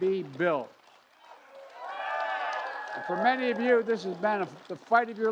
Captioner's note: cheers and applause